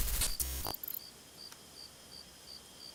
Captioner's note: crickets chirping